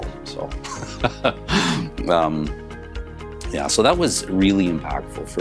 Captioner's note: laughs